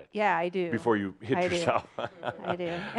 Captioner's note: Adamus chuckles